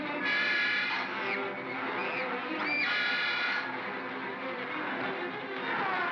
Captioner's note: suspenseful music; girl screams; suspenseful music; bogeymen growling